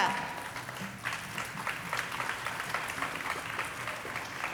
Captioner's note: audience applauding